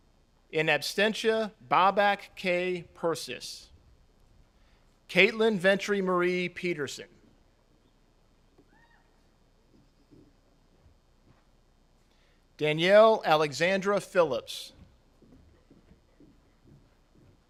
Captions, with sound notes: in abstentia, Bobak K. Persis, Caitlin Ventry-Marie Peterson, (attendee cheers) Danielle Alexandra Phillips,